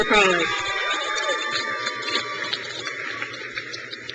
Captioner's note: crowd cheers